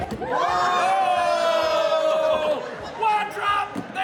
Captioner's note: audience claps and cheers